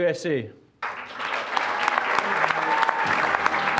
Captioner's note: applause; orchestral music